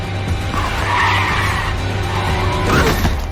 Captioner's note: brakes screeching